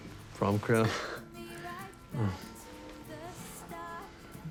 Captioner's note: casey giggles